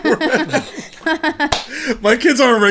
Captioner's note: laughing